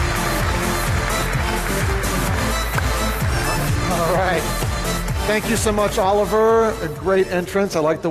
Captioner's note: applause